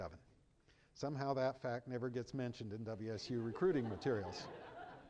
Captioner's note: laughter